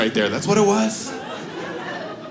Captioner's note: audience laughs